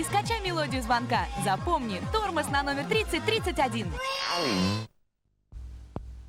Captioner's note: squeak; rhythmic music